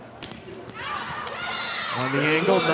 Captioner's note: audience cheering; ball thumping